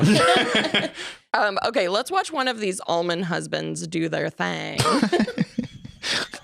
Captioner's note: laughs